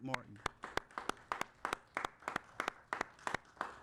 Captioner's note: applauding